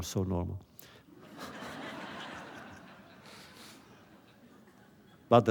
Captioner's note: laughter